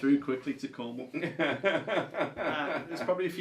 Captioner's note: laughs